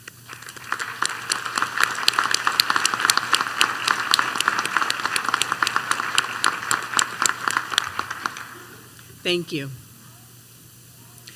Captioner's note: applause